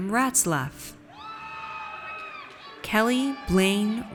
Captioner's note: audience cheers